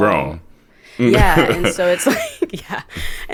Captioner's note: chuckles